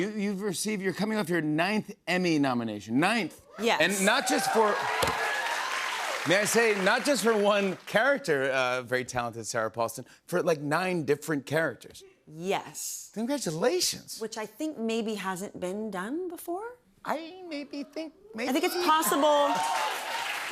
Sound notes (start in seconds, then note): 3.8 cheers and applause